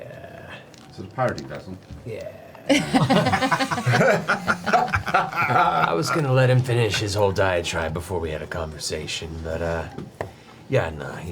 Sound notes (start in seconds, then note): 2.7 all laugh